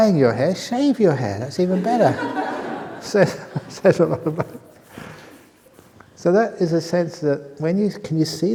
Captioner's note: laughter